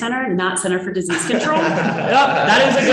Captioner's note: laughing